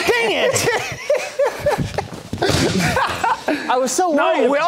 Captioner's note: laughing